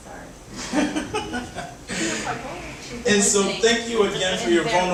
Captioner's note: audience laughing